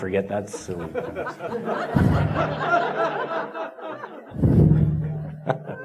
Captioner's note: audience laughing